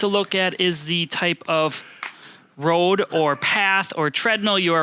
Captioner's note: laughs